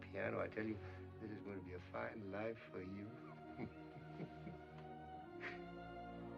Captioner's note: chuckling